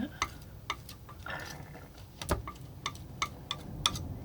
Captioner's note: tapping